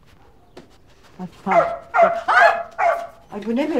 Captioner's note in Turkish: Şanslı havlıyor